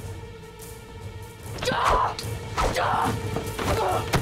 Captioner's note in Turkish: Haykırma sesi